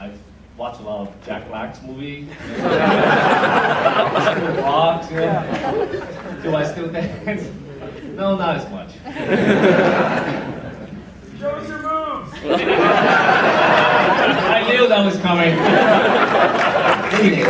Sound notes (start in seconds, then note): 2.3 audience laughs; 12.3 laughter